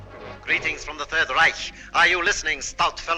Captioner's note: radio Broadcast